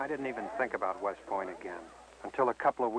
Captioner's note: male Voice